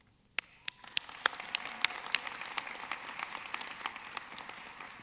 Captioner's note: audience clapping